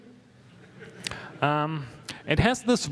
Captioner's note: laughter